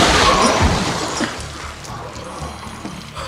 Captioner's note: both gasping